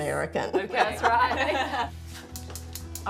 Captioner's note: laughing